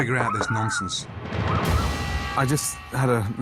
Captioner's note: dog squealing